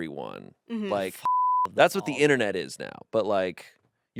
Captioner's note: beep